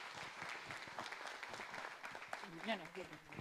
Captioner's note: audience applauding